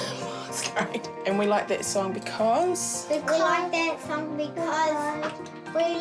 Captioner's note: laughs